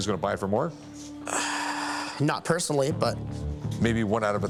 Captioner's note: sighs deply